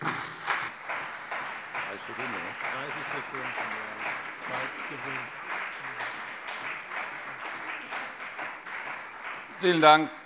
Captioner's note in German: Beifall CDU und BÜNDNIS 90/DIE GRÜNEN